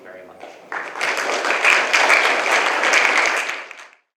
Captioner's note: applause